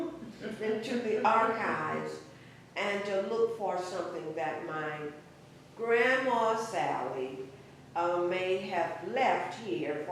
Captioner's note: laughter